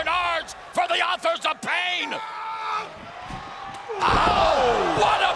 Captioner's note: wrestler screams